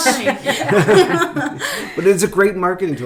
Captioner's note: laughing